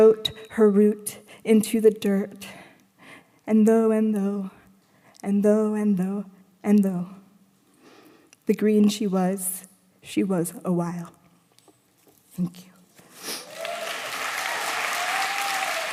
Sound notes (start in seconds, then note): 13.4 applause